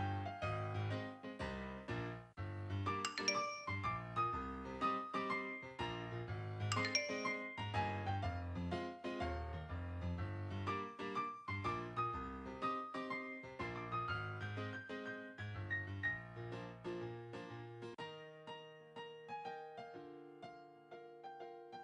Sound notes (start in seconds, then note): 6.7 chime